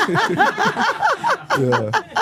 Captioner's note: both laugh